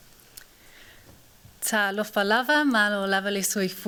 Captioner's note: non-english speech